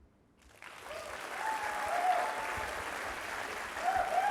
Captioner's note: audience applauding